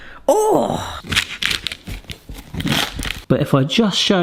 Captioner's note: brownie crunching